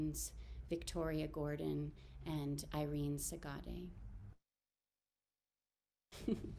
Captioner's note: chuckles